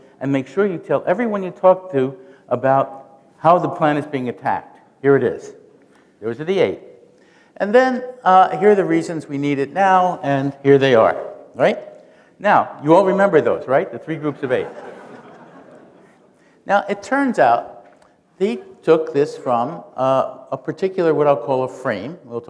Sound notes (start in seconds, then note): 14.2 laughter